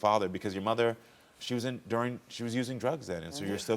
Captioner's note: none